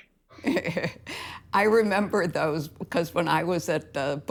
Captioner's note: chuckles